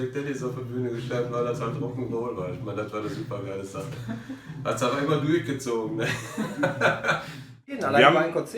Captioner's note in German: lacht